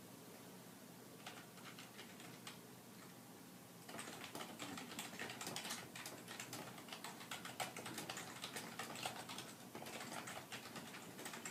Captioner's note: typing